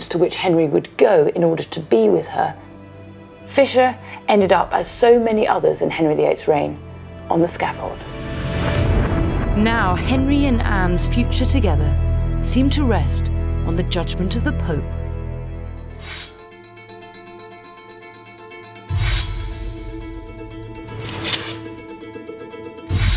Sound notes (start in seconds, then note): 16.0 sword unsheathes; 16.2 tense dramatic music; 19.2 sword unsheathes; 20.8 sword clinks